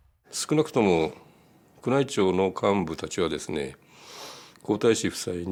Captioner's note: speaking in Japanese